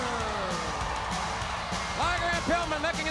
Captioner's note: crowd cheering